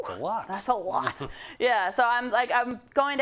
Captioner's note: laugh